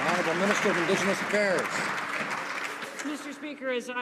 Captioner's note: some Applause